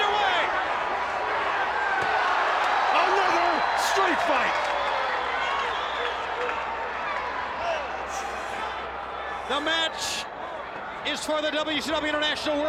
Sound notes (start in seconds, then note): 2.0 crowd cheering; 5.6 crowd chatter